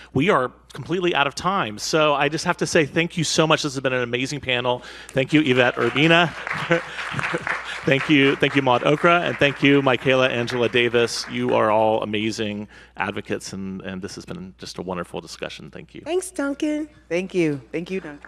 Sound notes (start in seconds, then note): 5.2 audience applauds